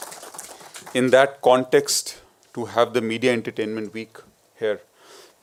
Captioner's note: applause